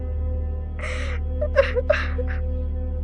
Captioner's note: Tiffany crying